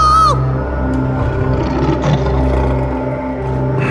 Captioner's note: growls